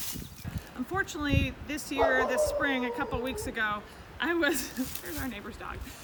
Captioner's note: laughing